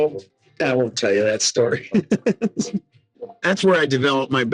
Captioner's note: laughing